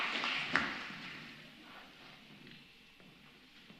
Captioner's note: applause